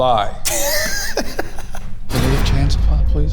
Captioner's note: group laughing; dramatic music